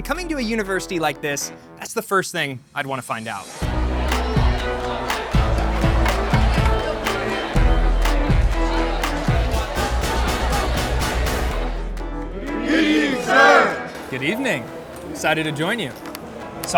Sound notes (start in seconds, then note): 3.8 upbeat music continues; 4.6 students chattering